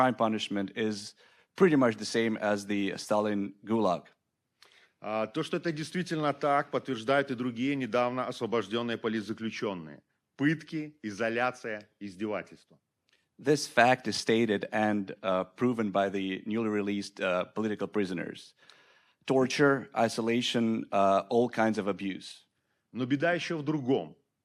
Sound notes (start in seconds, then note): 5.0 speaking Belarusian